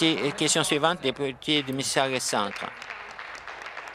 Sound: applause

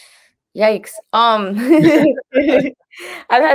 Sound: they laugh

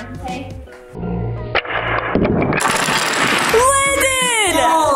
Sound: wood pieces clanking

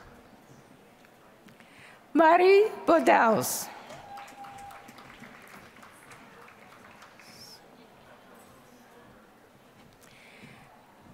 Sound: applause

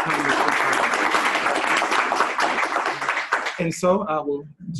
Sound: applause

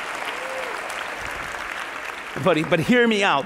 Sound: applause

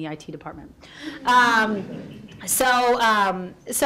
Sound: audience laughs

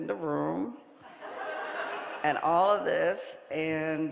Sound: audience laughing

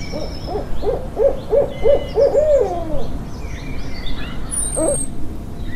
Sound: birds chirping; owl hooting

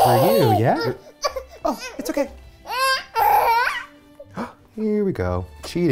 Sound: cries

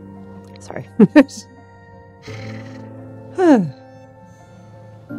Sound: chuckles

